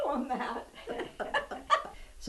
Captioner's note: laughter